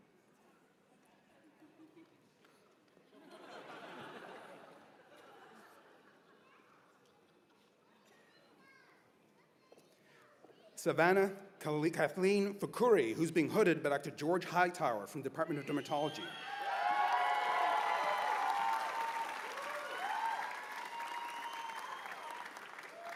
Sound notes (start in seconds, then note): 7.5 cheers and applause